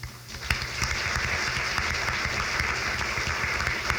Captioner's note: crowd claps